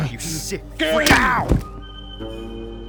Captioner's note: loud Smack